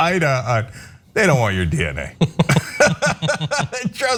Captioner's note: laugh